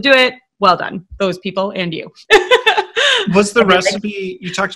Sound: laughing

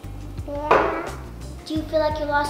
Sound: babbling

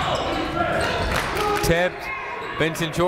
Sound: clapping

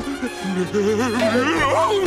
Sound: groaning

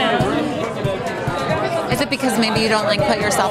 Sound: participants chattering

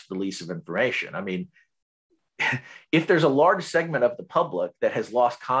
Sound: chuckles

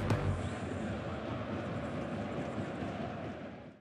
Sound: crowd cheering in background

